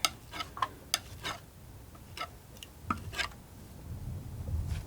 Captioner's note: scratching